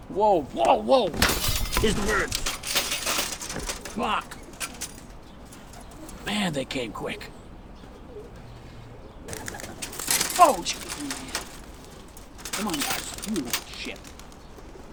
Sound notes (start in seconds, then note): 1.0 metal clanking; 9.5 birds chittering